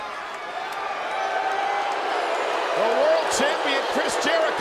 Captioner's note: crowd cheering